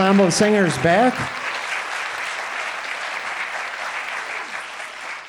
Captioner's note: audience applauding